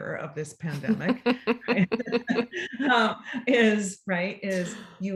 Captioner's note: both laugh